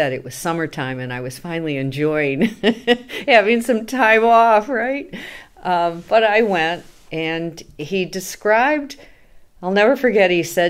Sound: laughs

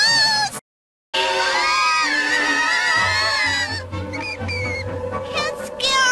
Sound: screaming

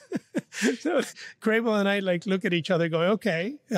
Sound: laughs

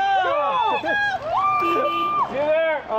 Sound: yelling; car horn honking

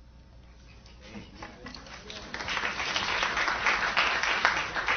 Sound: applause

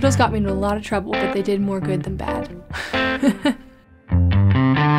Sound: laughing

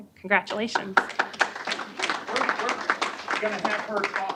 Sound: applause

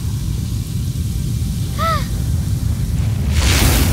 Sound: gasping

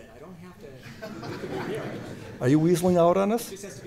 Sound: laughter

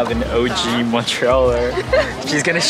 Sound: laughing

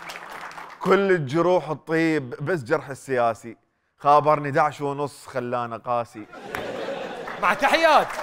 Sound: poetically

